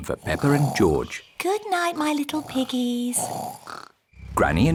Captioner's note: both snoring